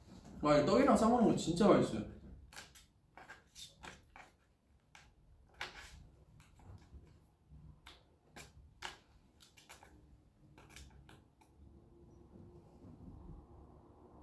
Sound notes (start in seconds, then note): none